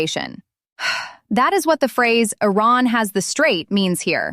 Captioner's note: exhales